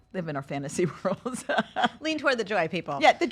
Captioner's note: laugh